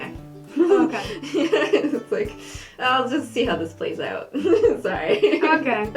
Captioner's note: laughing